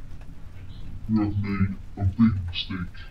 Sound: creepy voice

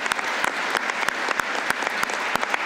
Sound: applause

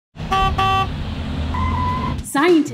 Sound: bus honking

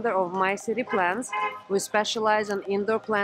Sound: car honking

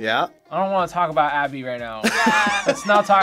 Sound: laughs

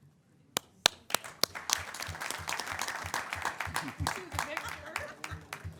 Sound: audience clapping; audience laughing

